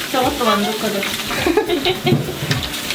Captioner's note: laugh